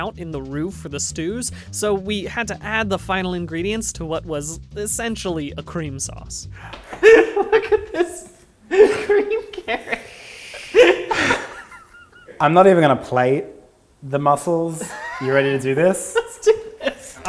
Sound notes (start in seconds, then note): 6.7 gasping laughter; 9.3 gasp; 11.2 laughing